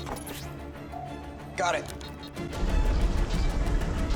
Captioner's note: sonar beeping